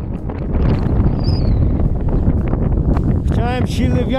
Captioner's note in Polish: znowu szum wiatru